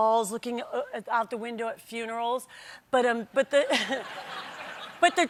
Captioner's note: laughter